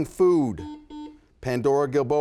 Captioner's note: buzzer buzzes